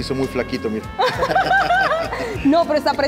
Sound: laugh

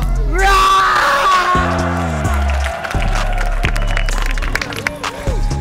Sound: crowd cheering

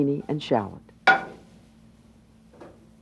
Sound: pan taps

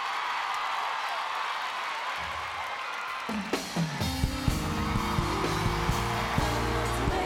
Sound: applause

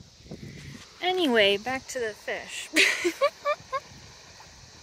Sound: laughing

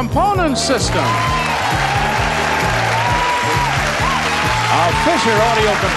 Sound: audience applauds

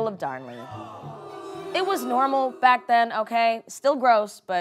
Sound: crowd boos

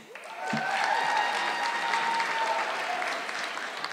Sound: audience clapping

